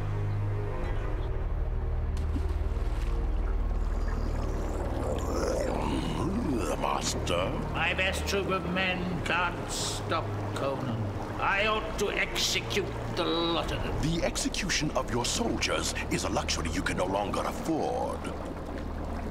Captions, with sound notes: (splash) (water bubbling) - (grumbling) Master. - My best troop of men can't stop Conan. I ought to execute the lot of them. - The execution of your soldiers is a luxury you no longer can afford.